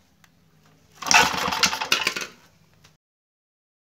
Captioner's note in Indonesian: bunyi mesin